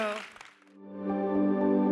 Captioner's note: audience applauding; tranquil music